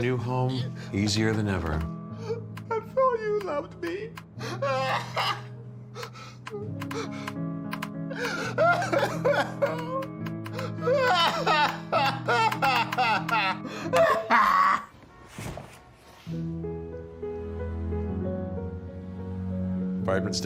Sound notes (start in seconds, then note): 5.5 Brokenhearted Guy sobs